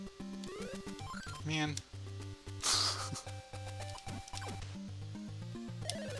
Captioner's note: laughs